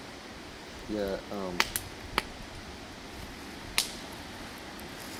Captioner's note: fire crackling